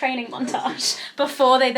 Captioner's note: laughs